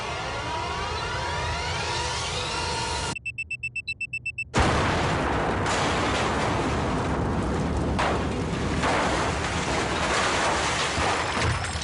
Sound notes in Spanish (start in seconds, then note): 0.1 Bip intermitente; 3.1 Bip continuo; 4.5 Explosión; 4.6 Estruendo